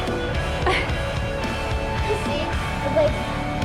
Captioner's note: laughs